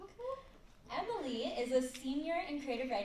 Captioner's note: none